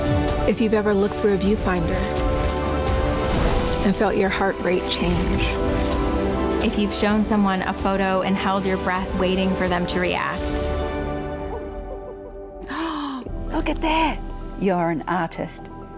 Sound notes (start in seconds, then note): 11.5 laughs; 12.6 gasps